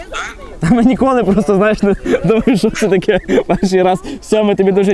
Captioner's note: laughting